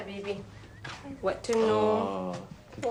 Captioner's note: speaking Arabic